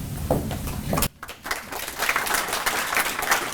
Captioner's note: applause